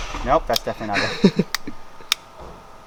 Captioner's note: metals clicking